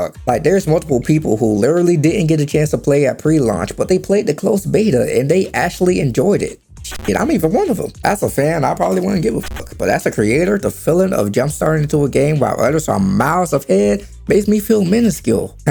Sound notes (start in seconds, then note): none